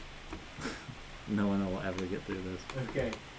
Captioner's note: laughs